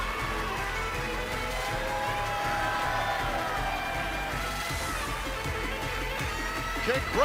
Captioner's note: cheers and applause